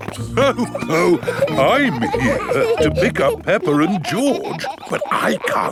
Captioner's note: laughs